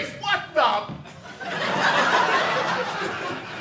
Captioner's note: audience laughing